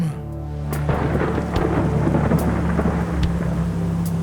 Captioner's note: thunder crashing